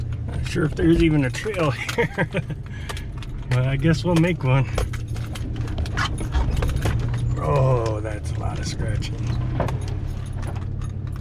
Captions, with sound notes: Not sure if there's even a trail here. (chuckles) But I guess we'll make one. (trees scratching truck) Oh that's a lotta scratching.